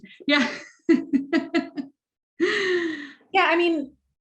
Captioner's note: laughs